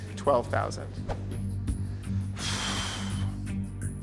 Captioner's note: suspenseful music playing; exhales sharply